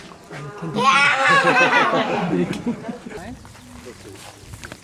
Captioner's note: kid laughing